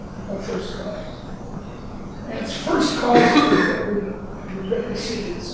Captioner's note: coughing drowns out speaker